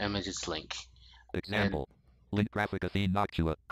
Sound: screen reader voice

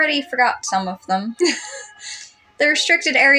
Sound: laugh

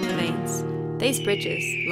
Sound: guitar tones; bird screeches

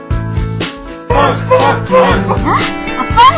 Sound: shouting

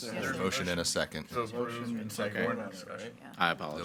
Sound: board members chattering

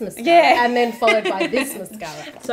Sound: laughs

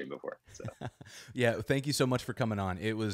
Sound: laughs

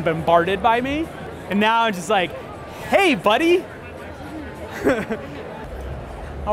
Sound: laughs

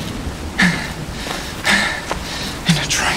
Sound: panting

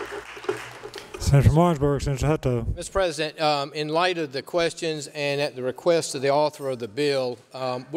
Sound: applause

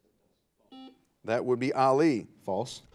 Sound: buzzer buzzes

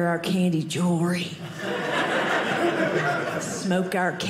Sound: audience laughing

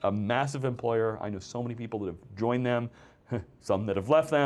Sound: laughs

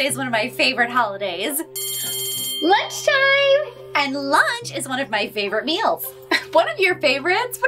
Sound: bell rings

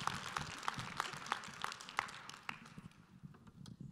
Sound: applause

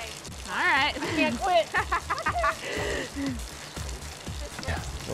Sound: laughs

